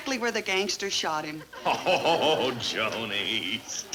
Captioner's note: laughs